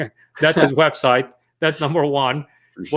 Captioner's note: chuckles